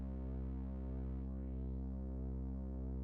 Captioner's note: none